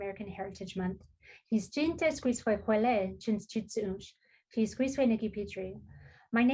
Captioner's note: traditional language